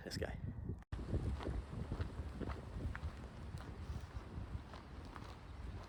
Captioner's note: footsteps